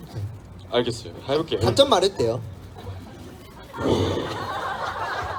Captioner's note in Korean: 웃음